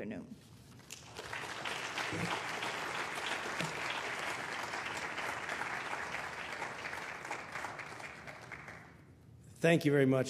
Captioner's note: applause